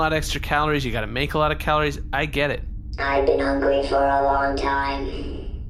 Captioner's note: in robotic voice